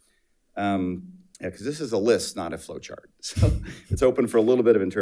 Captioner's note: laughs